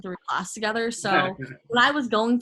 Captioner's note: laughs